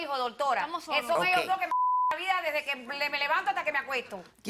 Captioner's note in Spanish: Bip